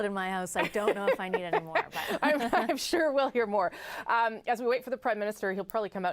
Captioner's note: laughter